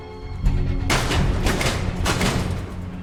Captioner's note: loud clicking/machinery moving